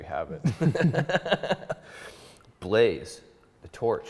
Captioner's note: laughs